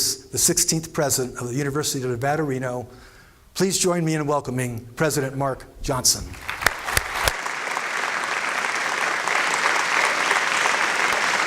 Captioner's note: applause